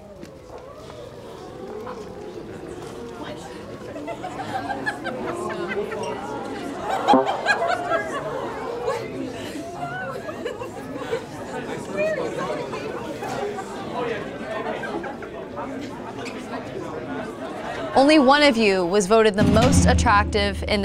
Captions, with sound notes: (participants murmuring) (participant laughs) (participants chattering) (electronic tone beeps) (participants chattering) Only one of you was voted the most attractive